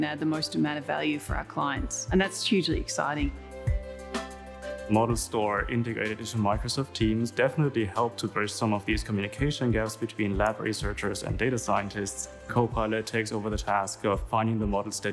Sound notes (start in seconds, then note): none